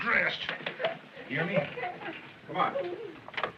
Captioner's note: giggling